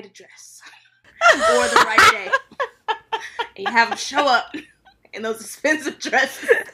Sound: cackling

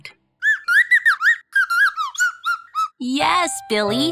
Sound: chirping

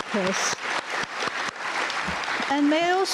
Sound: audience applauding

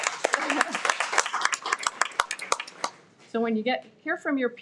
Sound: everyone applauds

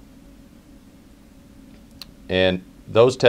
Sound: pause

